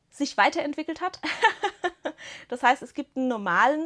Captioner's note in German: Gelächter